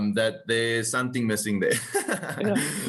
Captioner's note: laugh